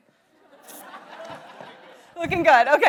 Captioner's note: audience laughs